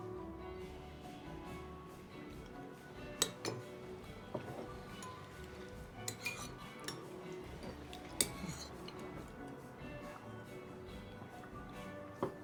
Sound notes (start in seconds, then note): 0.1 mellow rock music; 3.2 utensils clinking